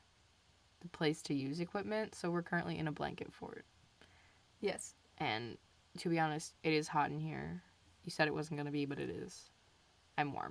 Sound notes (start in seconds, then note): none